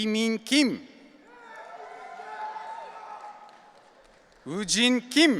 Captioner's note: audience cheering